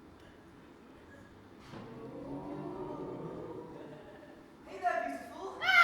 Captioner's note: audience: ooooo